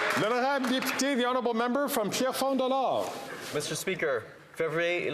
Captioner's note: some Applause